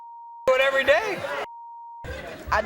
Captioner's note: beep